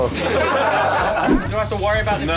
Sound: crowd laughter

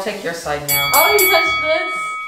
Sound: fighting bell rings

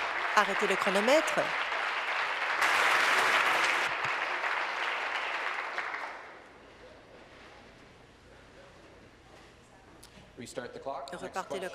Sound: applause

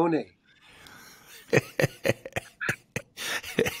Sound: José laughing

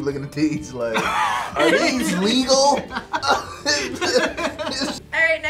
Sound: laughs

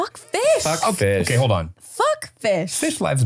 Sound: laughing

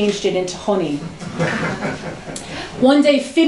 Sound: laughter

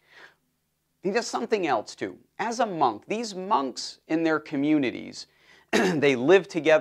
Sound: cough

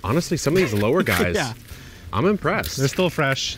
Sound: laughs

